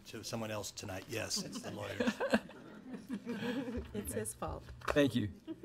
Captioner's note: board laughs